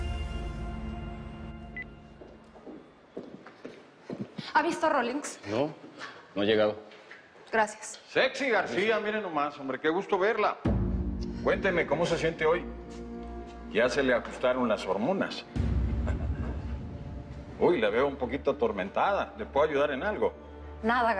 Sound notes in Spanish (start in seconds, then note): 15.9 Ríe